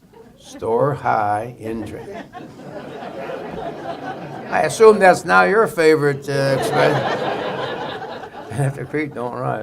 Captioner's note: laughter